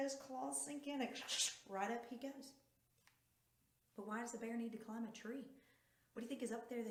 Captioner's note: ksh ksh ksh